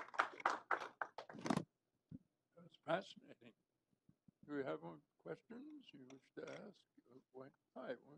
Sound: applause

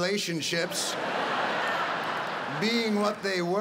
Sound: audience laughing

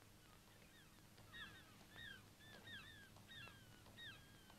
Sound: birds chirping

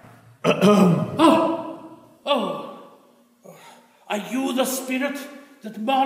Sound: clearing throat

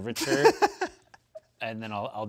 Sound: laughs

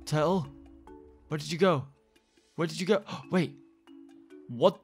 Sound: gasps

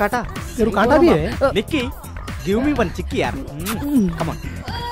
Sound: kiss

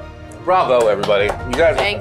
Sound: clapping

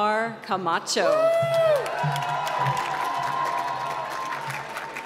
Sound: applause

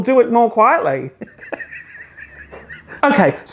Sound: laughs

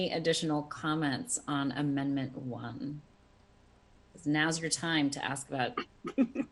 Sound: laughter

